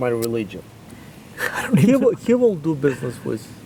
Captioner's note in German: Lacht